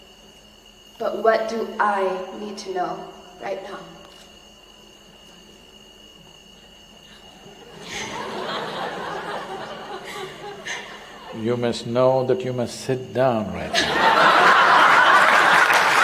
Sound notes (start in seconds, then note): 7.3 laughter; 13.6 laughter; 14.4 applause